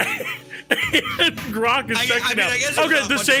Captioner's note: laughs